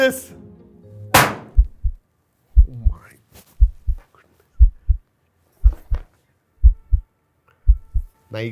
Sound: heartbeats

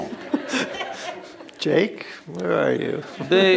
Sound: laughter

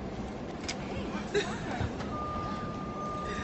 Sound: vicky cries

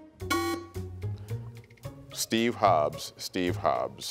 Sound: alarm buzzes

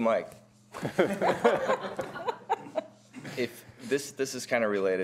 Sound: panelists laughing

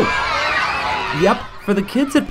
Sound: screams

